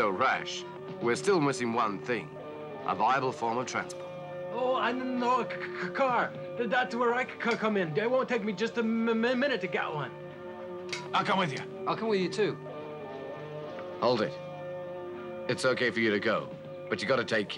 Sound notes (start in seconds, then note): 6.2 stuttering